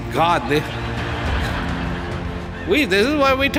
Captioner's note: audience laughter